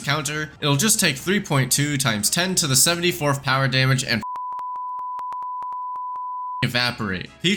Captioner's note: beepbeepbeepbeepbeepbeep